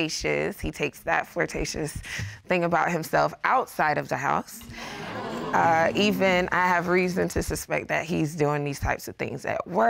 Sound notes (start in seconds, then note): 4.6 audience gasps